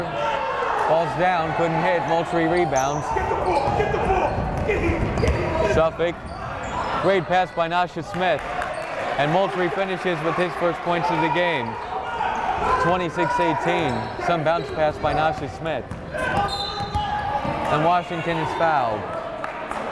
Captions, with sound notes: Jumper, falls down, couldn't hit, Moultrie rebounds. (yelling) Suffolk, great pass by Nasha Smith, and Moultrie finishes with his first points of the game. 26, 18, some bounds pass by Nasha Smith. (whistle blowing) And Washington is fouled.